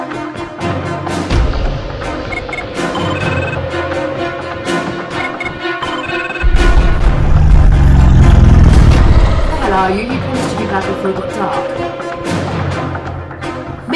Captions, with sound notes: (phone ringing) (deep beastial growling) - Where the hell are you? You promised to be back before it got dark.